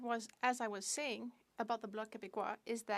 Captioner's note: speaking French